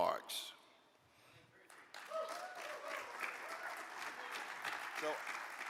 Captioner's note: audience cheers and applauds